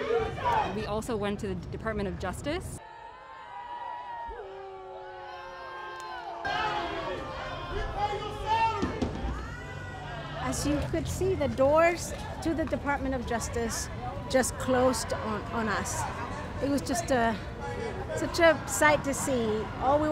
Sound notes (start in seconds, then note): 2.8 crowd booing as DOJ security closes doors